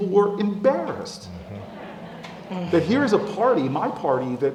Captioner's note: laugh